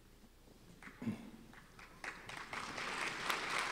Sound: applause

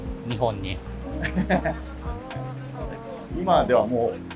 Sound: laughing

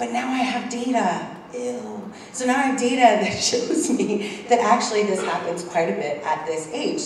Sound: laugh

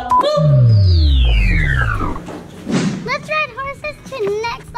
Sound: engine powering down

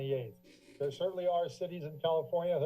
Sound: creaking sound

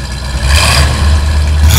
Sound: engine revs

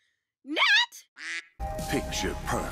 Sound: quack; mysterious music

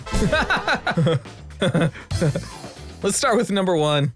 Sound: laughs

